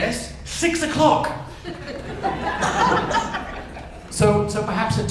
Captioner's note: audience laughs